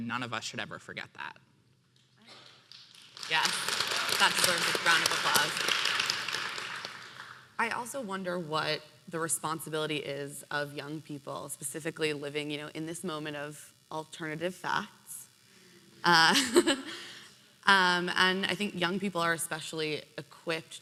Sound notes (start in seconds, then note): 2.3 applause; 15.4 audience laughing